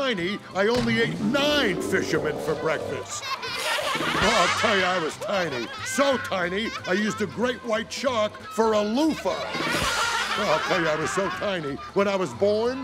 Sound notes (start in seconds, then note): 3.1 laughing; 9.6 laughing